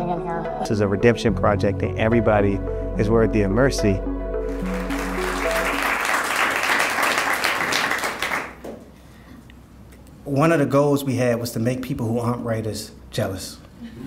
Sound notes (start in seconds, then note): 4.4 audience applauding; 13.8 audience laughing